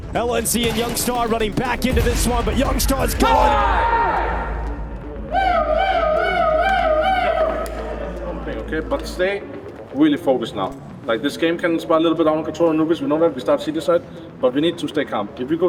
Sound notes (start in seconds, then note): 3.0 group cheering